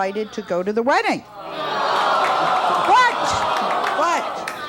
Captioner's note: audience awws